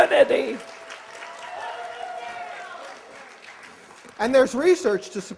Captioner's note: cheers and applause